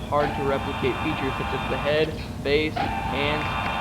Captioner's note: whirring